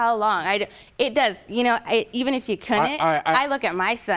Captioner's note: stammering